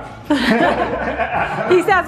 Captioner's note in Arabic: يضحك